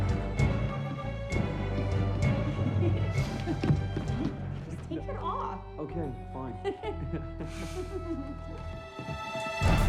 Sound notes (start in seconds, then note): 2.6 anna giggling, muffled; 6.6 both giggling